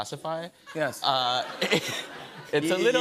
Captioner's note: laughter